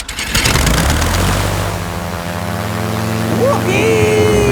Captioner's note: plane humming